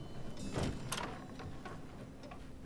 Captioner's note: door opens